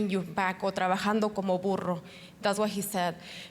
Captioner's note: speaking Spanish